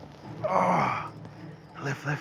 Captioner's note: grunts